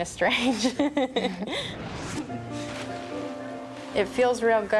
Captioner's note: laughter